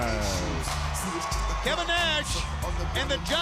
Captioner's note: crowd cheering